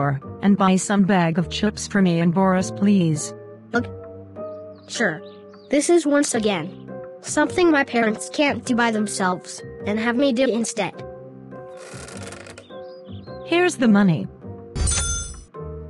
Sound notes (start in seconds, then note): 11.7 creak; 14.8 cha-ching!